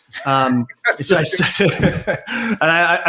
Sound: all laugh

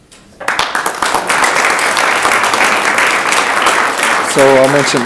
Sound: audience applauding

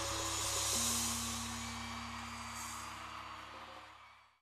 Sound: audience cheering and screaming

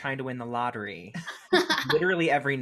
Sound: laughs

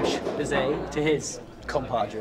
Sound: clanging of chairs against table

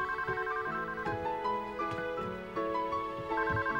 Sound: phone rings

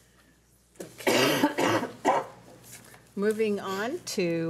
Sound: coughing

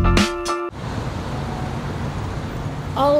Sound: traffic

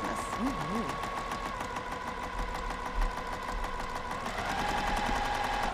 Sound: sewing machine humming

